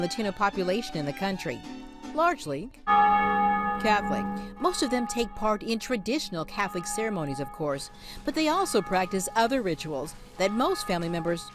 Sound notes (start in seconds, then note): 2.8 bell rings